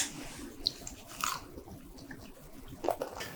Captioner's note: crunch